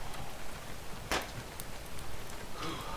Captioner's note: snap